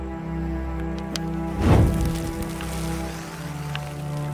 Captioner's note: flame roars